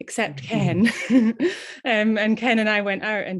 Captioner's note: laughing